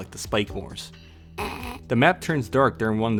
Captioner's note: laughing